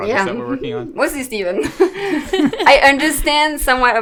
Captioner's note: laughs